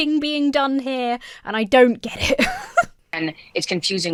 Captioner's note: chuckles